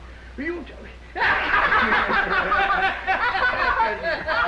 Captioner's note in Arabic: ضحك